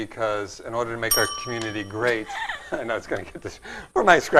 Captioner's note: ding